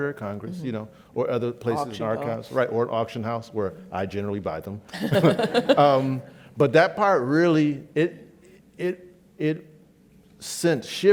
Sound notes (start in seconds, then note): 5.0 laughs